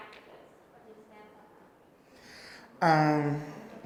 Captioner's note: mumbling